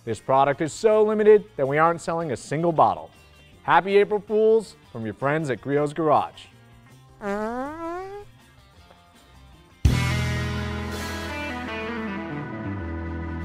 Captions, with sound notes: This product is so limited that we aren't selling a single bottle. Happy April Fool's from your friends at Griot's Garage. (fart sound) (upbeat rock music)